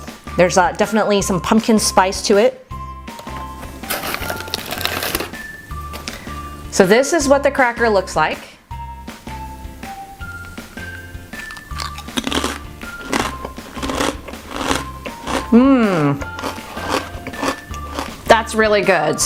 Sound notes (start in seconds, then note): 3.7 packaging crackling; 11.4 crunching